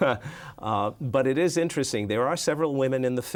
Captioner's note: chuckles